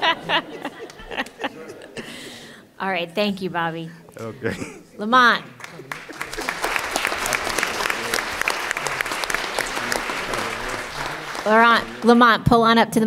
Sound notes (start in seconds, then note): 5.9 laughter; 10.1 laughs